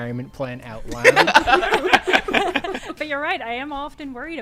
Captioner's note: laughter